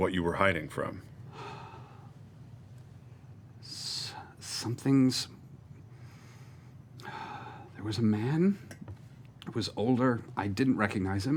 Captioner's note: sighs